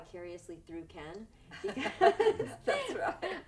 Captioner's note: laughing